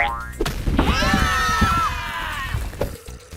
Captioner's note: screaming